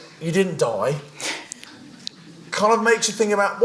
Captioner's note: laughing